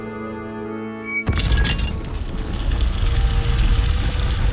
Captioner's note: doors rumbling